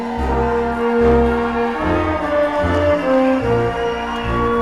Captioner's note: crowd cheering